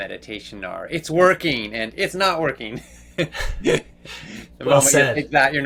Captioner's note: chuckles